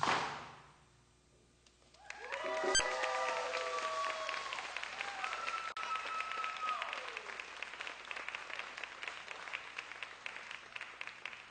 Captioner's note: applause